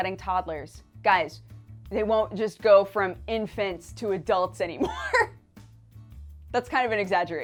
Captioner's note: laughs